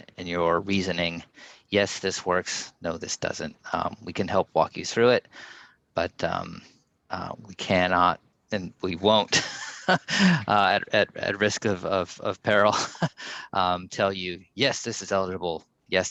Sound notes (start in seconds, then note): 9.6 laughs